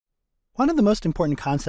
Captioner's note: voiceover